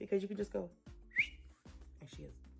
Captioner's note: fast whistle